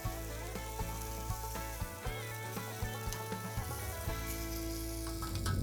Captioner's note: grills sizzling